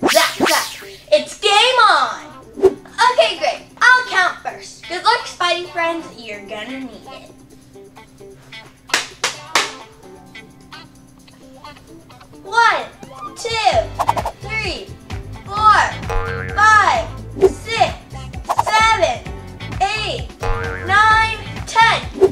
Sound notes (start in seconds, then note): 8.9 claps; 16.0 elastic boings; 20.4 elastic boings